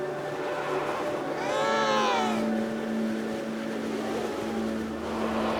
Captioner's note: penguin vocalizes